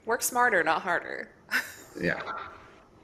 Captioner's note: laughs